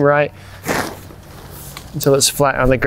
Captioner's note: tent flapping